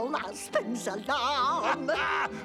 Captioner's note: laughs